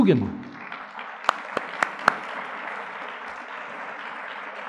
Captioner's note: audience clapping